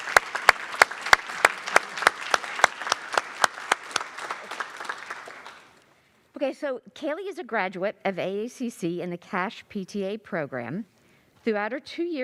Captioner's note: applause